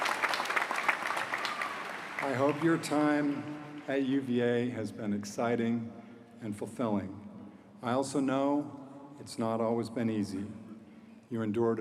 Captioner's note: applause